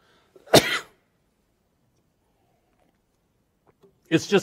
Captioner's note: coughs